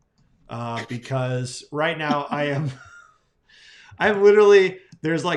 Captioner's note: laughing